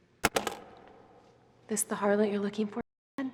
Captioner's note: phone hitting floor